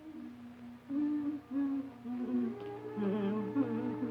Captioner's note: Minnie humming